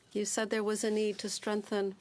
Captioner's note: speaking French